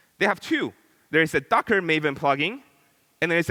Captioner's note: none